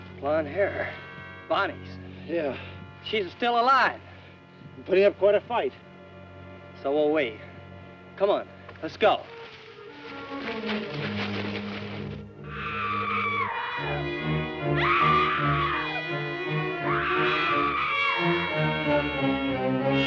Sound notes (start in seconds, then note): 12.8 screaming; 16.4 tense orchestral music